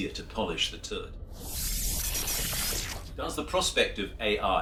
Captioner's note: electronic sounds